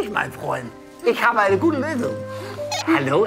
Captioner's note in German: Piepsen